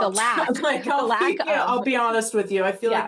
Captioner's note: scoffing